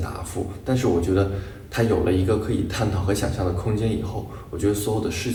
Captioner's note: speaking Chinese continues